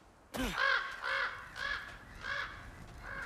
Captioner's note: raven caws